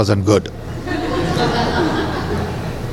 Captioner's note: laughter